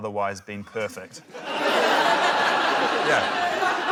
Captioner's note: laughter